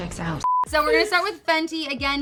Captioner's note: beeping